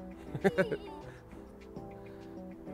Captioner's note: laughs